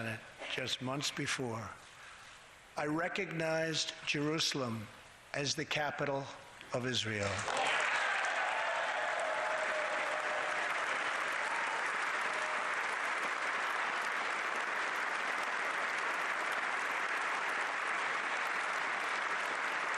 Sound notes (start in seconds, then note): 16.4 applause; 18.4 cheering